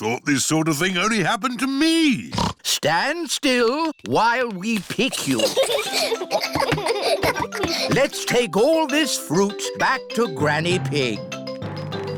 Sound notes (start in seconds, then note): 2.3 snorts; 5.0 children giggle